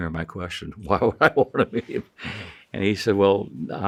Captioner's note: chuckling